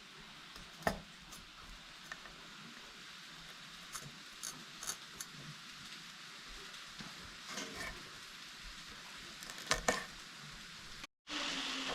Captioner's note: sizzling